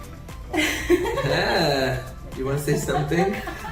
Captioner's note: woman laughs